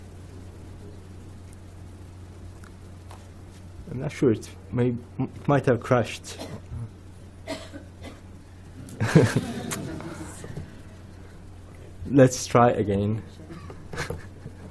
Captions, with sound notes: I'm not sure, it might have crashed. (audience laughing) Let's try again.